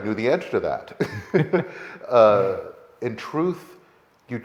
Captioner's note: laughing